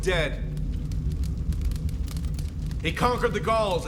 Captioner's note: fire crackling